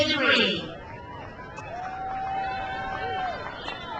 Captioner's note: crowd cheers